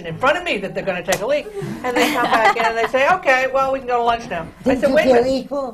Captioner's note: laughter